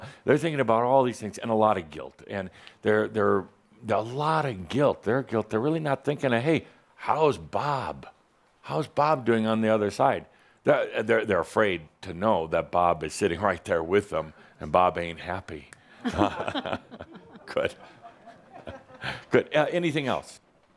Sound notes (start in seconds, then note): 15.9 a couple of chuckles